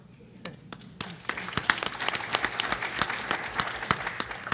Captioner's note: applause